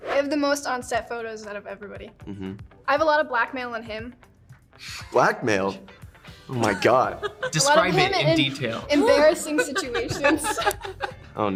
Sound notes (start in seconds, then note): 4.8 inhales; 6.6 Joy laughing; 10.4 multiple laugh